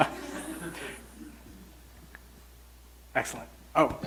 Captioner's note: audience laughs